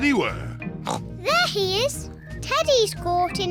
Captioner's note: oinks